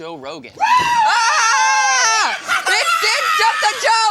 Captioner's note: screaming